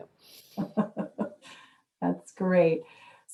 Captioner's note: laughs